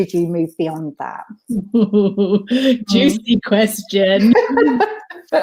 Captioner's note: laughs